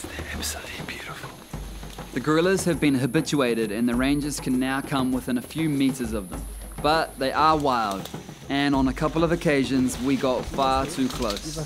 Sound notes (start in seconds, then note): 7.2 branches snap; 11.4 urgently in foreign language